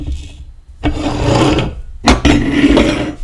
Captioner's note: Eiffel Tower scraping across the desk; globe scraping across the desk